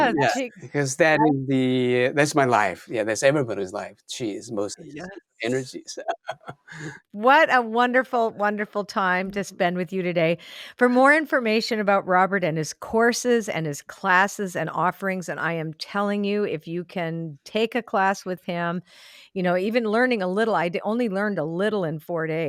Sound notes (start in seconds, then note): 5.4 laughs